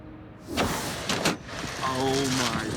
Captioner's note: plastic crunching